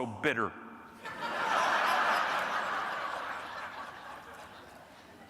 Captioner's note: audience laughing